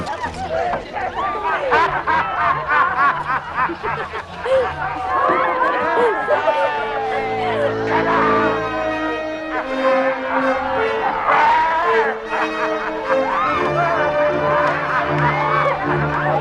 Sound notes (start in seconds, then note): 1.1 all reveling; 11.6 man laughing hysterically